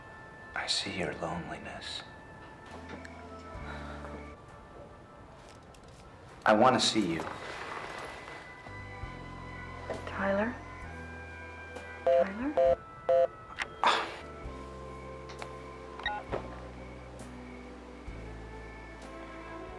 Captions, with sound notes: - I see your loneliness. I wanna see you. - Tyler, Tyler? (phone beeping) (sighing)